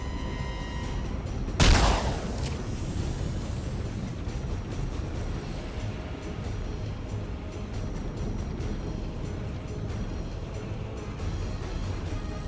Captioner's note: gun firing; dramatic music